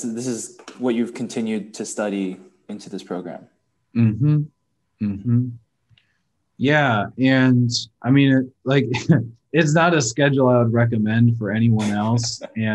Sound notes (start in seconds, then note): 8.8 chuckles